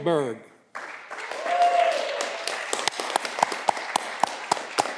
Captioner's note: audience clapping